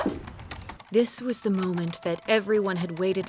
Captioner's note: typing